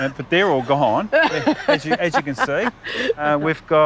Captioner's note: laughs